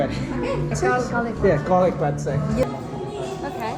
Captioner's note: laughter